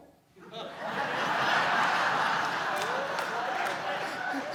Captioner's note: laughter